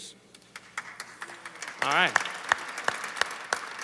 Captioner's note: applause